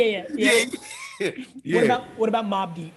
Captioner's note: laughing